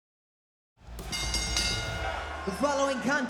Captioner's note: bell dings